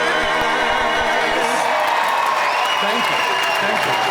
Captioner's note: applause